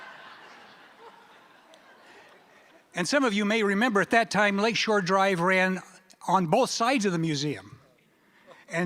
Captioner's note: laughter